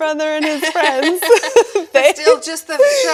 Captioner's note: laughing